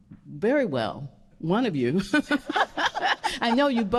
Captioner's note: laughing